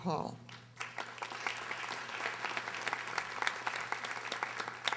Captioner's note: audience applauding